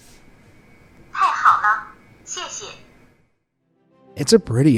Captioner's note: translator device speaking in foreign language